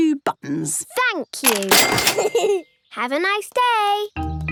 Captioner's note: giggles